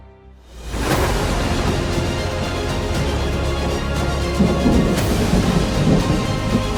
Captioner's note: dramatic music; thunder